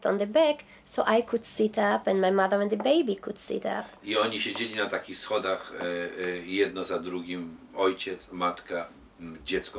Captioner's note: speaking Polish